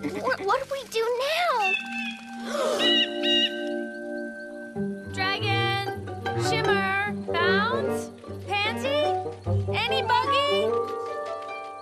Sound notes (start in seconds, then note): 1.5 bird squawks; 2.5 gasp